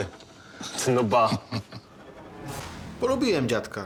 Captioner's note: customer laughs